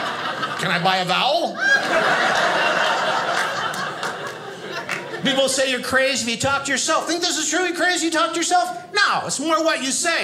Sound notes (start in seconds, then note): 1.5 audience laughing